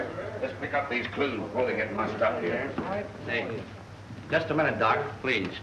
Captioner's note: reporters chattering